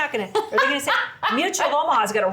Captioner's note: laughs